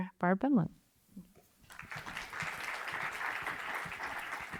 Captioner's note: audience applauding